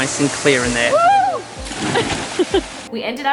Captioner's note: yelling; laughing